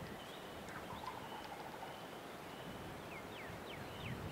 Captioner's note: turkey gobbling